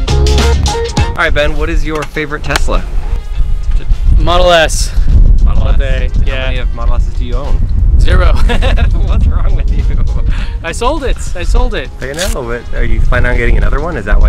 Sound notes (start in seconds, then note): 8.3 laughter